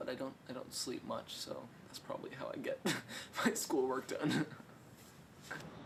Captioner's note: laughs